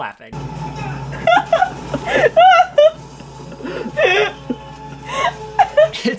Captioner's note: laughing